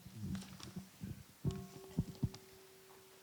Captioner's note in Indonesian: Mengundang bunyi genta